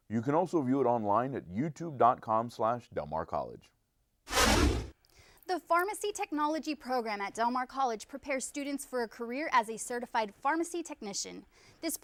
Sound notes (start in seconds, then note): 4.3 whooshing